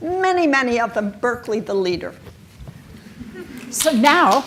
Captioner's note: audience claps and chuckle